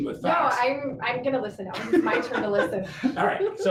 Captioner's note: laughing